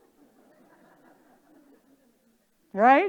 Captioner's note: audience laughing